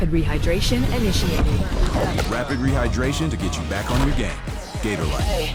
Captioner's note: computer voice